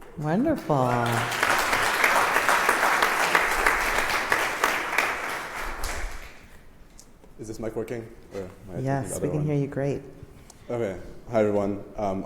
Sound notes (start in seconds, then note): 4.6 applause